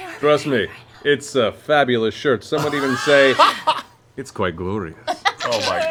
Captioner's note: Gilmore voice